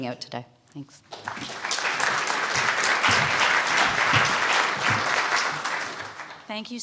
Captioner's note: applause